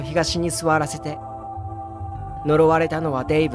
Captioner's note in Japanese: none